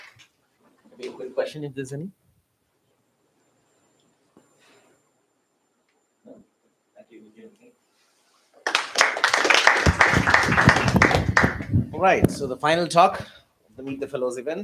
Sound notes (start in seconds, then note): 8.6 applause